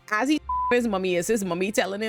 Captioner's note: beep